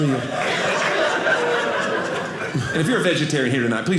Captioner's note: audience laughing